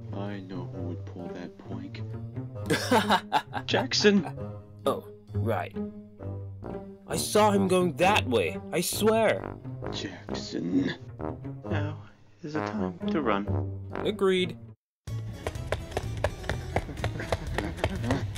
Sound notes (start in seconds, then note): 2.6 Jackson laughing